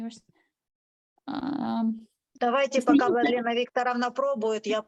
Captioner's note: speaking Ukrainian